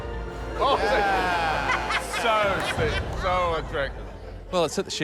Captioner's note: laughs